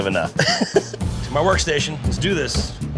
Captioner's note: person laughing